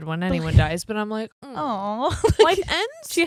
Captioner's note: groans; laughs